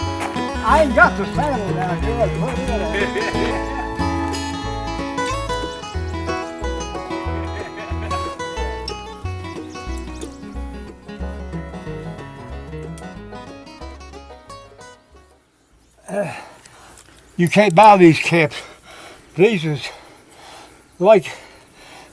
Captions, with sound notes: I ain't got the saddle down here. I'd put it on you. [laughter] You can't buy these caps. These was...like...